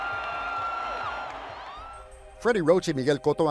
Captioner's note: crowd cheering, yelling